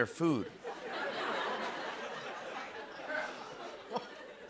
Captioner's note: laughter